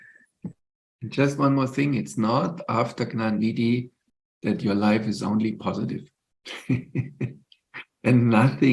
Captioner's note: laughs